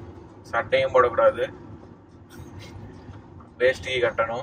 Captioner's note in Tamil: none